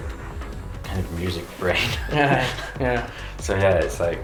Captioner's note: both laugh